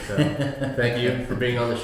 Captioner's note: laughs